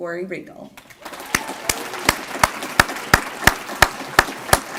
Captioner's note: applause